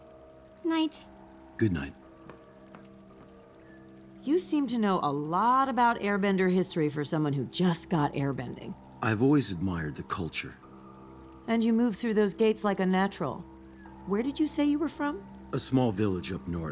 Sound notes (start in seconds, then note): none